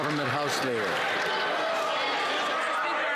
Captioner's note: some Applause